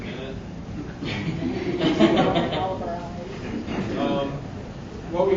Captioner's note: audience laughing